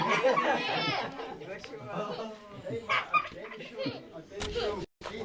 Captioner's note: speaking Yanomami